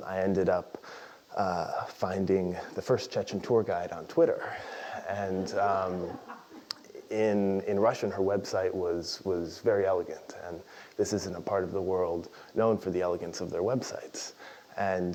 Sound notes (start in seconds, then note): 5.3 laughter